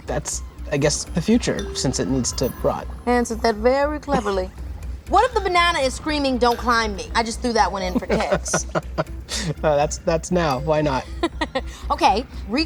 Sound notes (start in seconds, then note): 7.9 laughing